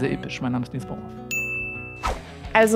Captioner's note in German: Klingeln